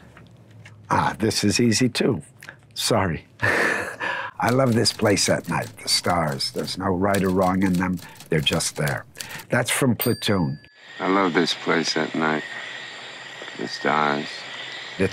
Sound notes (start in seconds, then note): 3.4 chuckling; 10.0 bell dinging